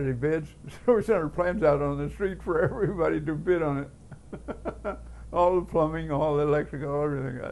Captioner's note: chuckle